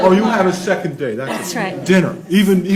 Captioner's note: laughs